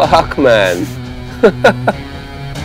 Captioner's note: Rishi laughs